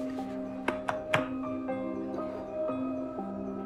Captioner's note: taps binder